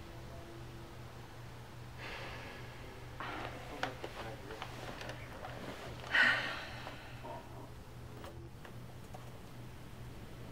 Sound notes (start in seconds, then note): 3.2 sighing